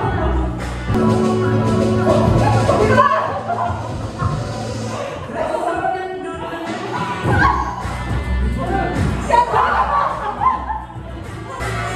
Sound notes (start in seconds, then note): 2.4 hehehe